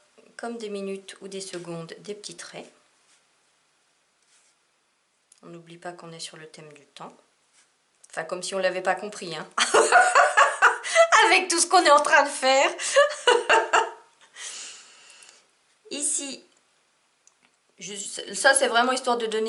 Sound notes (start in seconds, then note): 12.8 laugh